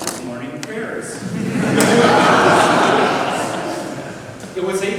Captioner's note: everyone laughs